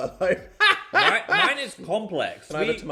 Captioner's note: laughing